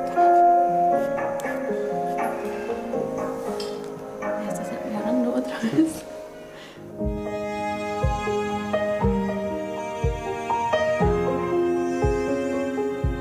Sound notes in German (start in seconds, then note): 3.8 Flüstern; 7.6 Gefühlvolle Musik